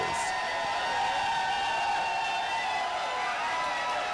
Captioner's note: cheers and applause